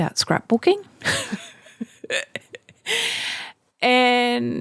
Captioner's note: laughing